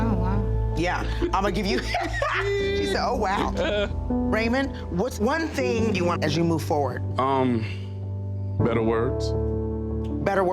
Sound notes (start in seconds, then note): 0.4 warm piano music; 1.1 laughs